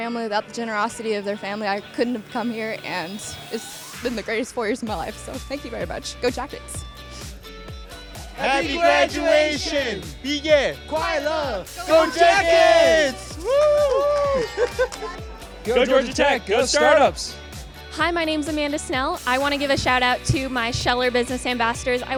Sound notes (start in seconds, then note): 10.5 non-english speech; 11.8 cheering